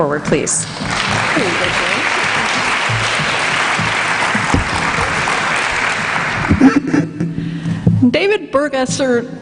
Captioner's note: applause